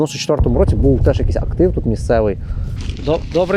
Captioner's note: another explosion in the background